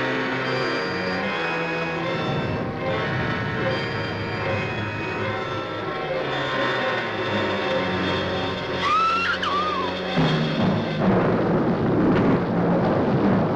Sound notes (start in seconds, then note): 8.8 Janet screaming; 10.4 suspenseful music